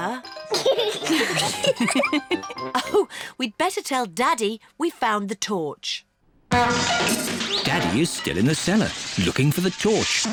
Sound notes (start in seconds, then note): 0.6 all laugh; 6.5 crashing